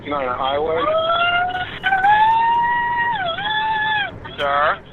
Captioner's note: screaming